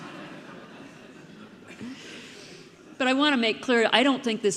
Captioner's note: audience laughing